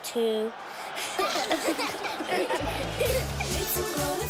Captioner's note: laughing